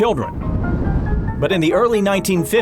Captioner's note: road noise